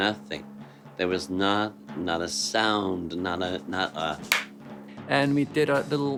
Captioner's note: hands smacking